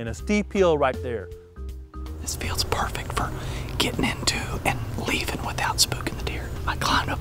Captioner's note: whispering